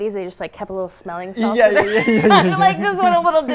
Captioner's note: both laughing